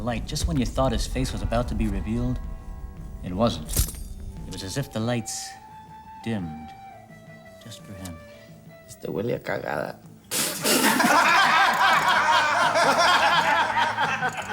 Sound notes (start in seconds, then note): 8.6 speaks Spanish; 10.7 all laughing